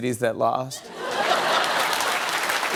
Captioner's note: laughter and applause